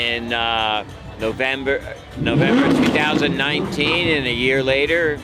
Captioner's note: car revs